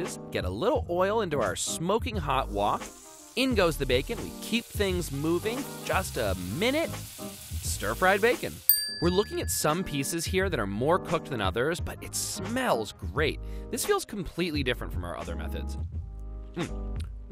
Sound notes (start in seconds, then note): 8.7 dings